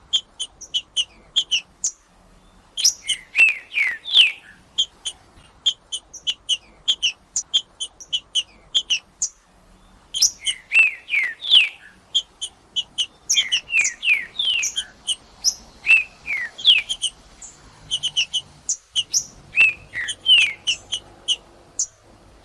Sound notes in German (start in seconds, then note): 0.0 trinca ferro cantando; 11.4 trinca ferro cantando; 13.4 trinca ferro cantando; 15.4 trinca ferro cantando; 17.4 trinca ferro cantando; 19.4 trinca ferro cantando; 21.4 trinca ferro cantando